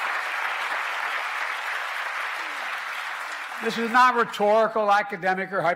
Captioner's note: applause